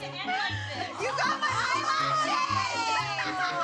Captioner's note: laughing